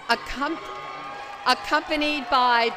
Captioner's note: cheering